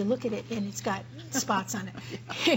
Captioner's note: laughter